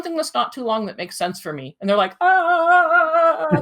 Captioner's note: moans